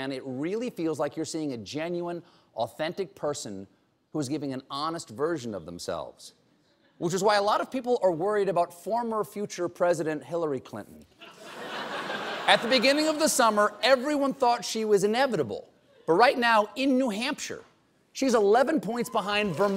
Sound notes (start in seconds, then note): 11.2 laughter